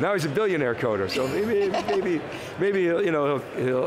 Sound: laughing

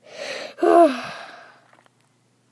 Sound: sighs perfectly

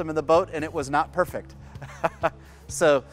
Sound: laughs

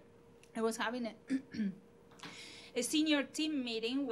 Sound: clearing voice

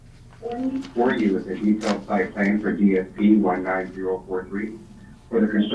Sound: murmurs

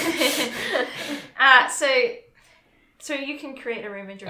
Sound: laughs

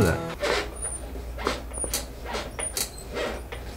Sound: squeaking chair

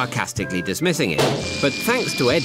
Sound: balloon pops

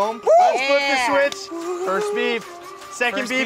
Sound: whooping

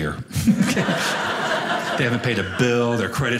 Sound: audience laughing

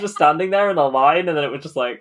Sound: laughing

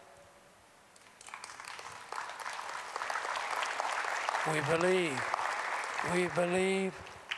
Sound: applause

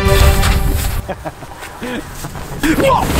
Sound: laughs

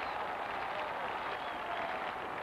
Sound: crowd cheering

